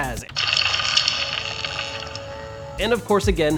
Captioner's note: machine crackles